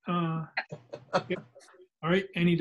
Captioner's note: man laughing